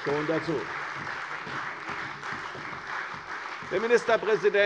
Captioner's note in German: Beifall bei der CDU und bei Abgeordneten der FDP